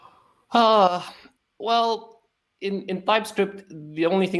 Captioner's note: sighs